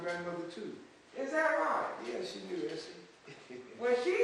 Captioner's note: laughs